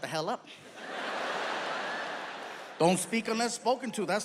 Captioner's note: audience laughs